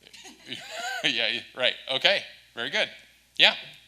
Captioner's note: laughs